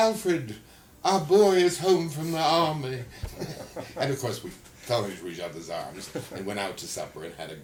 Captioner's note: laughter